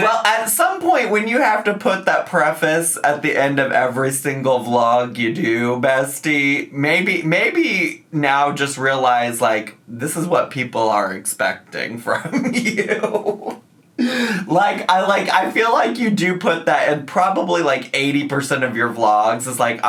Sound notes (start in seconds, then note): 12.2 laughs